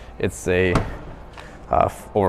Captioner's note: latch clicks